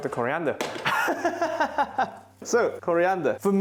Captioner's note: laughs